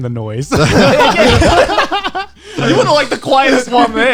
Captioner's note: guys laughing